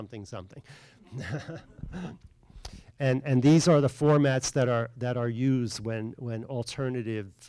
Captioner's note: laughter